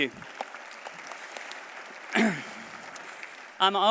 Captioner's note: applause